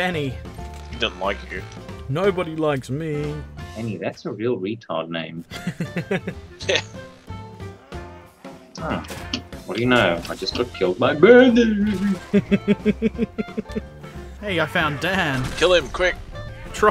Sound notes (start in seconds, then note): 5.5 laughter; 12.0 laughter